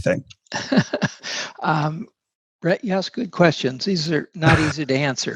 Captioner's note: laughs